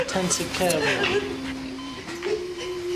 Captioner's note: crying